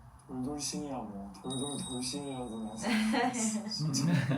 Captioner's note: broadcast sound